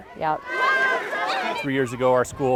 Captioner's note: kids walking